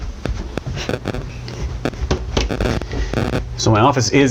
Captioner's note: audio buzzes